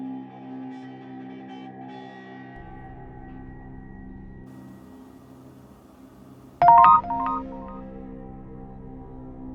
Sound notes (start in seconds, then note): 6.6 text sound; 6.7 dark music